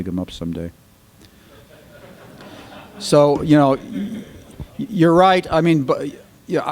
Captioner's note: laughter